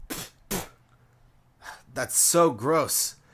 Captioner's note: spitting